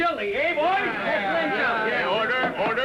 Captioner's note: men all agreeing